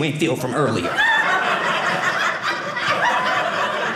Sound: audience laughing

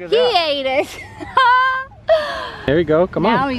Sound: laughs

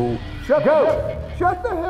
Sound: voiceover

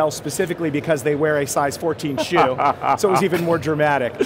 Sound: laughs

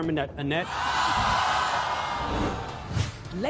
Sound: audience yells and boos

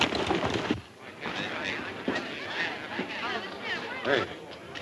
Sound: patrons chatting

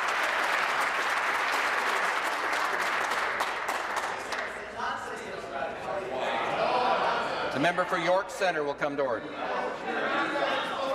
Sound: applause

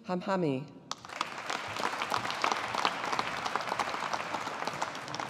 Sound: audience applauding

